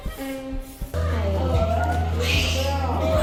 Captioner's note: surprised